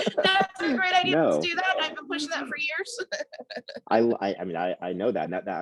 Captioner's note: laughs